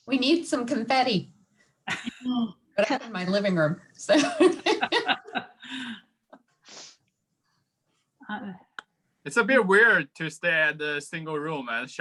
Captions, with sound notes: - We need some confetti in my living room, so. (group laughing) - It's a bit weird to stare at a single room